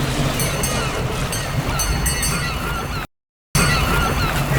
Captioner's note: bell dinging